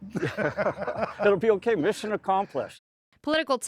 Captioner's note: laughter